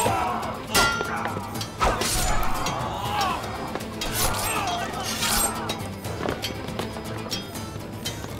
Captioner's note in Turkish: Dövüş sesleri; Müzik - Hareketli